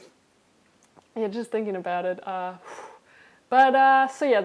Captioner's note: blows out breath